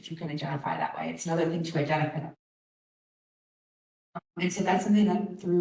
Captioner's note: audio cut